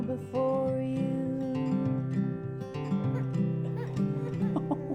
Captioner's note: baby cries